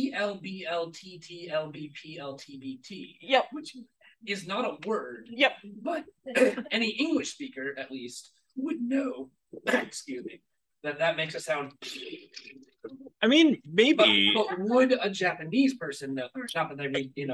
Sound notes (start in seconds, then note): 9.6 coughs; 11.6 makes a raspberry noise